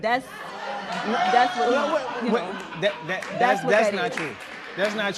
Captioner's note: spectators shouting